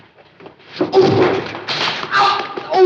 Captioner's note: grunts